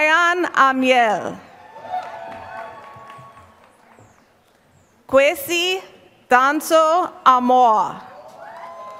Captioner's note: applause; applause